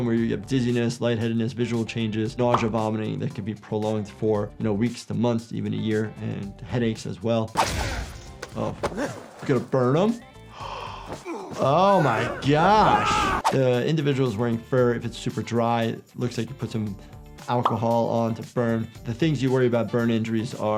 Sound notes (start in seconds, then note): 7.7 characters groan, weapon slashes; 10.4 doctor gasps